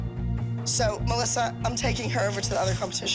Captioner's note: none